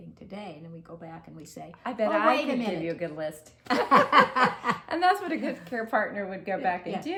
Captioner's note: laughter